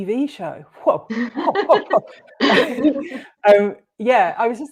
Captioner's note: laughter